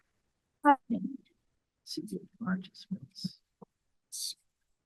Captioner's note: speaking faintly